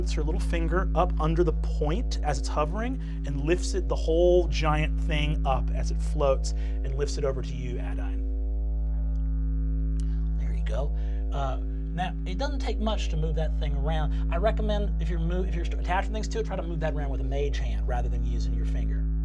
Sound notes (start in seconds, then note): 8.1 crystal hums